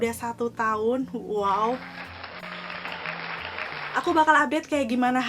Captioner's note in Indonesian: applause